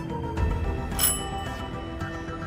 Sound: ring

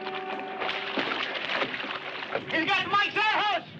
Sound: water splashing

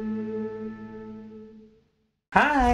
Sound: music stops

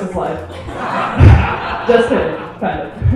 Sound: laughing

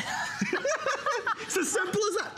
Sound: laughter

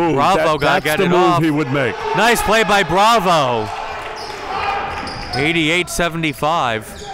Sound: cheering and yelling

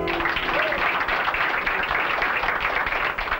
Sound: applauding

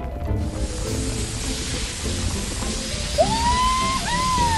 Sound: water sprays

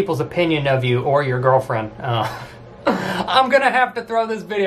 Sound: laughs

